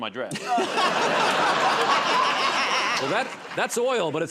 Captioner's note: laughter